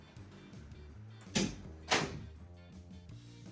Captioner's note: door shuts